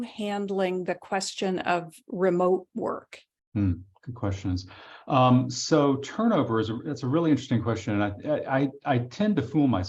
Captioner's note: chuckling